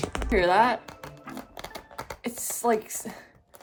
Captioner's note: squeaks